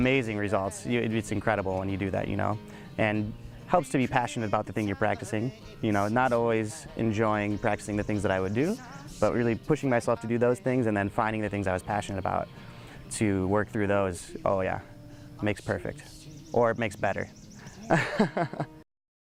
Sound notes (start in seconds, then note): 17.6 laughing